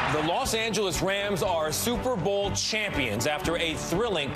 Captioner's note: cheers